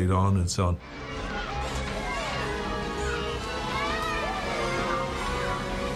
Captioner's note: children laughing and yelling